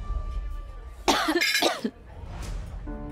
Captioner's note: coughs